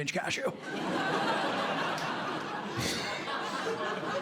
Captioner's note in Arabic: ضحك; يضحك